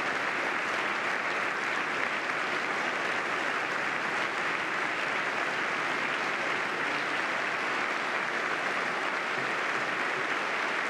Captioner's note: applause